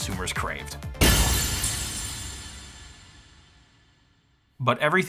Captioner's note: glass shattering